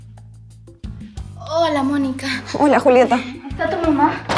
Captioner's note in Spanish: risas